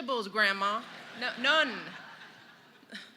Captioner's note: laughter